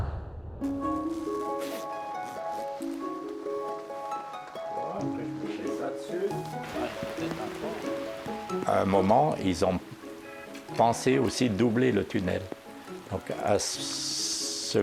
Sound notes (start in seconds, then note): 0.5 gentle instrumental music; 4.3 speaking in foreign language